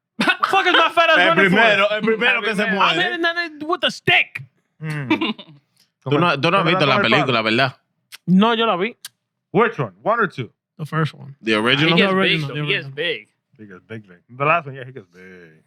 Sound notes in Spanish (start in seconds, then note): 6.3 Hablando en idioma extranjero